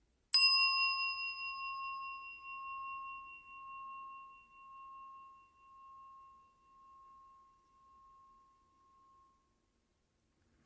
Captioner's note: bell